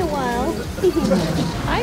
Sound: laugh

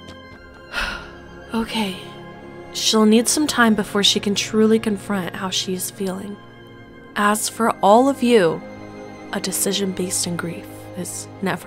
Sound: sigh

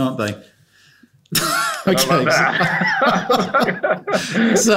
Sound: laughter

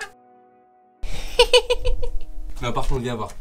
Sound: laughs

